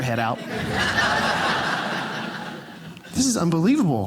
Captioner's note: audience laughing